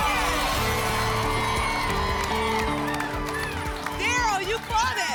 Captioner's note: applause and cheering